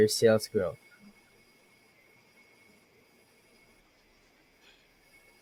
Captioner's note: crickets Chirping